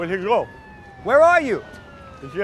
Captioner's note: sirens blaring